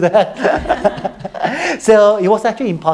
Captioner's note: all laughing